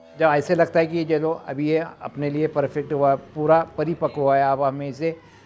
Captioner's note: speaking foreign language